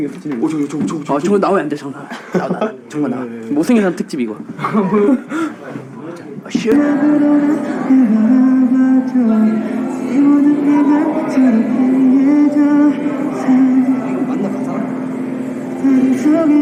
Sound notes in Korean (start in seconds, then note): 5.8 웃음